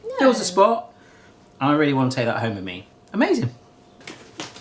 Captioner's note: none